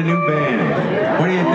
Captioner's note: crowd cheering